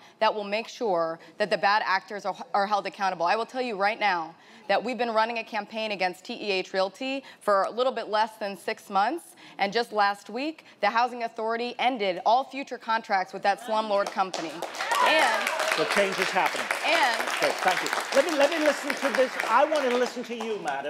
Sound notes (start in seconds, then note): 14.2 audience applauding